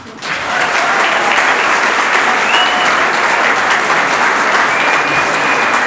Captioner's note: audience cheers and applauds